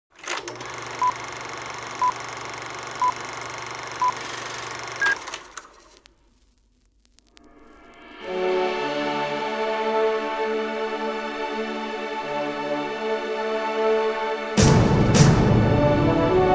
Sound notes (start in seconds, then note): 0.6 movie projector countdown beeping; 8.0 uplifting music